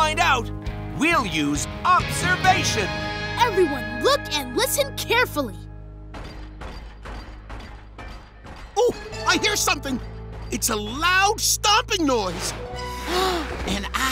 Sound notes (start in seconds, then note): 6.1 stomping; 13.0 gasping